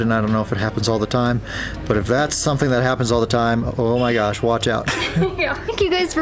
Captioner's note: laughter